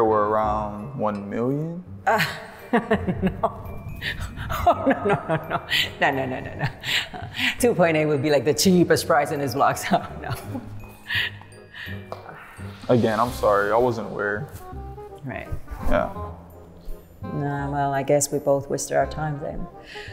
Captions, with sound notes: were around 1 million. - Oh (laughs) no. Oh no, no, no. No, no, no, no, no. 2.8 would be like, the cheapest price in this block, so no. - Again, I'm sorry, I wasn't aware. - Right. - Yeah. - Well, I guess we both wasted our time then.